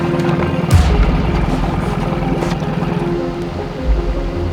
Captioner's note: dramatic orchestra music; boat puttering